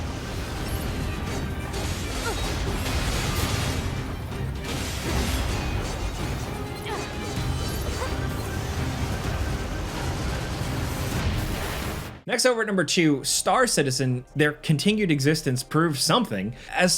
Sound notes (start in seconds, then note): 2.5 aircraft crashing; 2.8 upbeat music